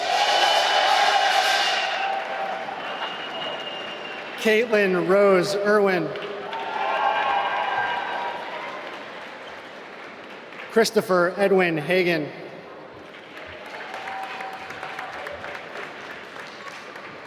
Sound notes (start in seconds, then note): 0.2 applause; 6.6 applause; 12.6 applause